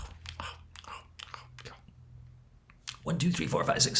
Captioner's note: lecturer mimics munching